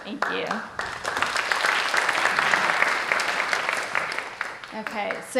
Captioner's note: applause